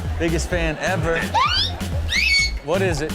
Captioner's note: high-pitch scream